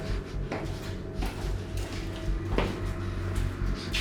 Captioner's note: footsteps treading